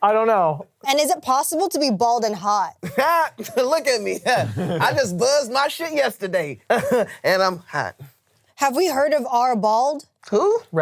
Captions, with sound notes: I don't know. - And is it possible to be bald and hot? - Ha, look at me. (laughs) I just buzzed my shit yesterday, and I'm hot. - Have we heard of r/bald? - Who?